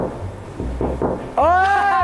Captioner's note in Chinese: 敲敲敲